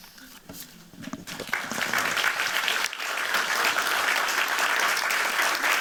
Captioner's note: applause